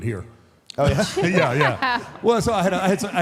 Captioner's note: Michelle laughs